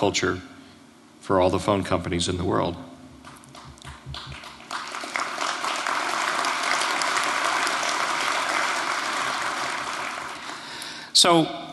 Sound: applause

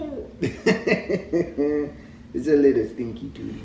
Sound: laughs

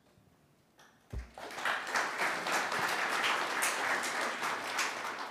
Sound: audience clapping

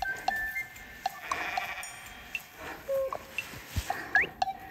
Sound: the sounds of a black goat grazing

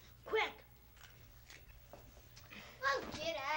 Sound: munching sounds

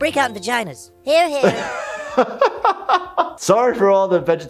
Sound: laughing

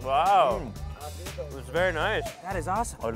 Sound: woman speaking faintly

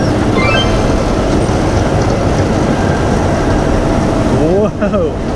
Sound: train rumbling

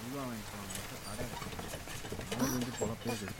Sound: rain sound

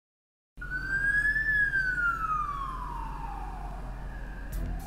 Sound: fire engine alarm

